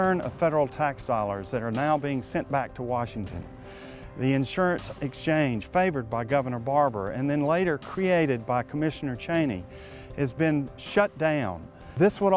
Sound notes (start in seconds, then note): none